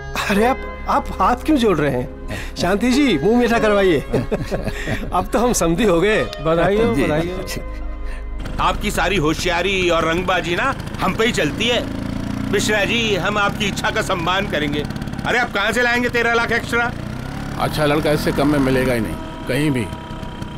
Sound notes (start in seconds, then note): 3.7 Laughs